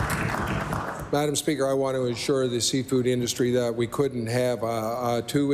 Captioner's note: applause